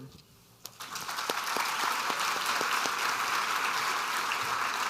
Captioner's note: audience applauding